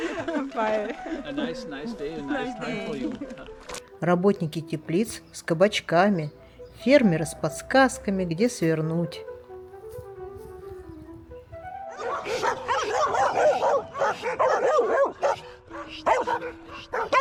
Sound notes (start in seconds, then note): 2.9 laughter